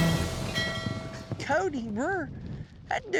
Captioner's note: ringing bells